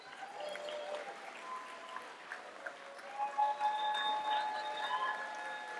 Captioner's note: cheers, applause